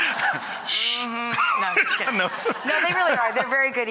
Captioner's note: laughs